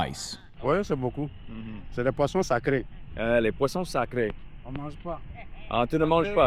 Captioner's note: people speaking foreign language